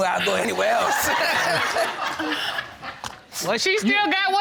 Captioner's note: audience laughing